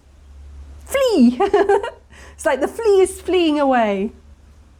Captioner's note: laughing